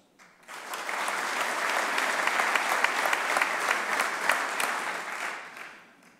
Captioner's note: applause